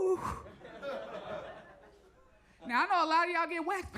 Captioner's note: audience laughs